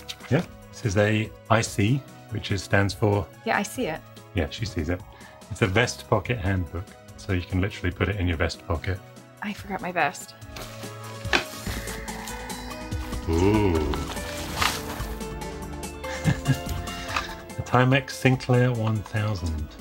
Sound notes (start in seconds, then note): 11.6 upbeat music; 16.0 laughing